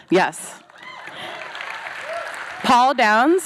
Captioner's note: applause, howling